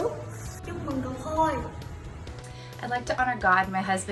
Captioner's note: speaking foreign language; child speaking foreign language